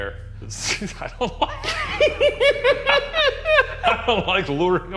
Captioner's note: both laughing